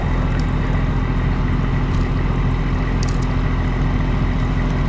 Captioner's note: engine rumbling